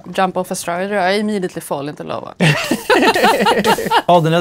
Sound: laughter

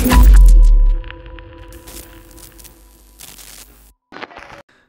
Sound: techno music; static crackles

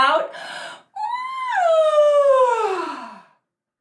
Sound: yaaaaawn

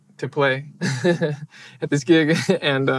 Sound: chuckles

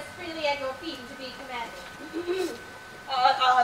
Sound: Gertrude clears throat pointedly

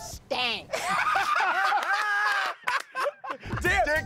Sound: laughter

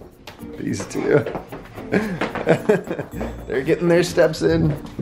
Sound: laughs

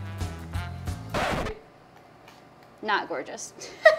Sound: record scratch

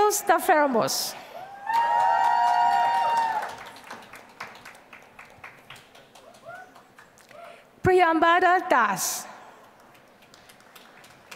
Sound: applause

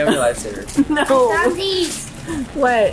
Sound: laughs

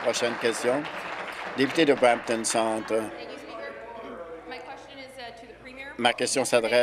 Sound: applause

